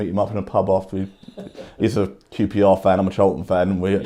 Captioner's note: man laughing